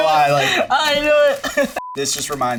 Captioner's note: laughing